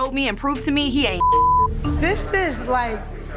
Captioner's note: beep